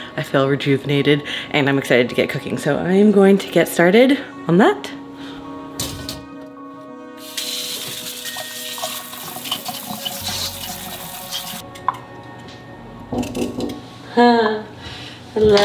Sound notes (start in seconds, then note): 7.2 water running; 13.4 door knock